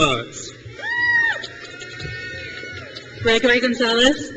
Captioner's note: crowd cheers